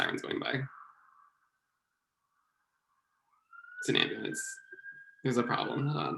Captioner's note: siren heard in the distance